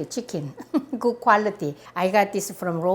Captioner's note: laughs